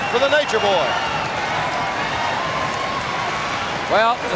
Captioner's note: crowd cheering